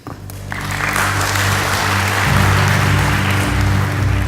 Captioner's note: applasue